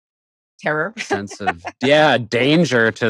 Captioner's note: laughter